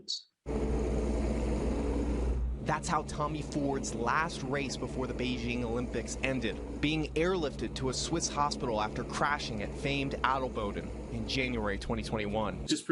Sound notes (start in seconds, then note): 6.4 sounds of helicopter rotor